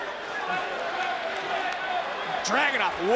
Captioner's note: crowd chattering